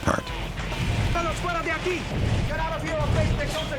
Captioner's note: speaking spanish